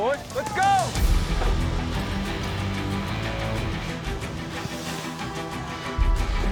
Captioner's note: cowboys shout encouragement; hay bales thud down